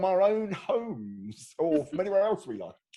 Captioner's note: laughing